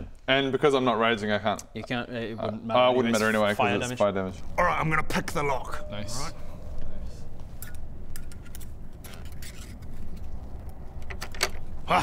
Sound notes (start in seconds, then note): 9.0 lock picking noises